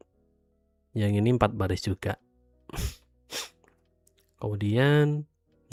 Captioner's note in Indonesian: tertawa